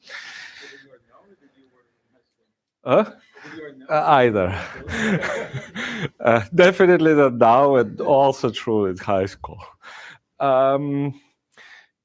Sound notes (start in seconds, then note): 4.4 laughter